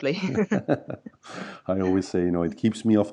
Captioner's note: both laugh